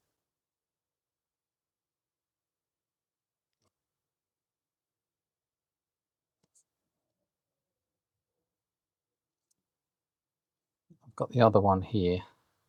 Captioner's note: silence